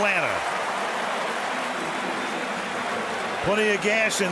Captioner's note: crowd cheering